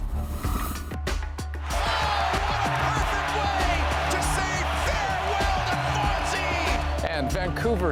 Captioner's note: cheers and Applause